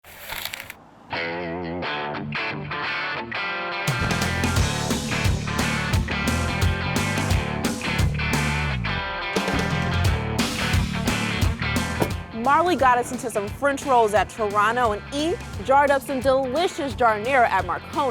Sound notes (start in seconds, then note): 0.4 whooshing; 1.0 rock music